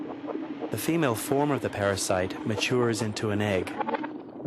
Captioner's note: rumbling